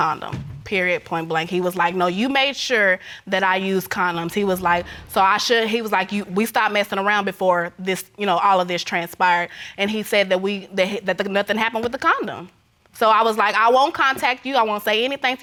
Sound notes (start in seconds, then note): 4.6 stammers